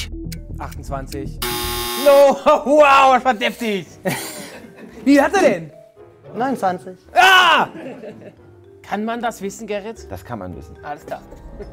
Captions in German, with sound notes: 28. No-ho, wow, das war deftig. (Lachen) Wie viele hat er denn? - 29. Ahh! Kann man das wissen, Gerrit? Das kann man wissen. - Alles klar.